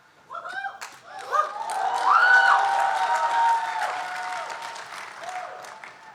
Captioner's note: audience cheering and applauding